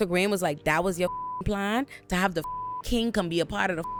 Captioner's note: beep